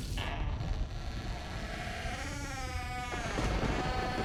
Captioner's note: door creaks